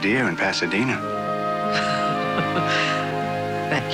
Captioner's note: laughs